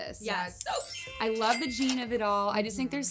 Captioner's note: cash register chiming